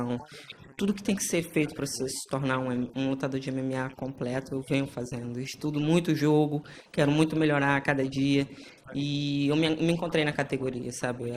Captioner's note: speaking foreign language